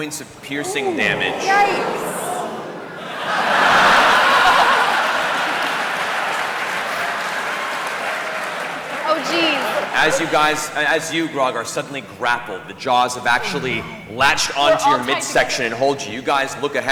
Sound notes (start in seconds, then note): 0.6 groaning, laughter